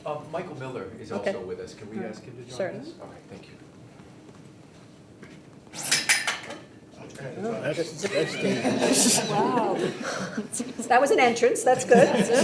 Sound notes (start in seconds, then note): 5.7 barrier clanking; 7.8 group laughing